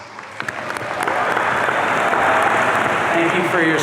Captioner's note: audience cheering